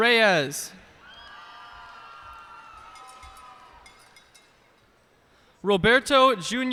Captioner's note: cheers and applause